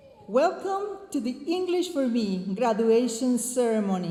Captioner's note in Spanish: hablando en inglés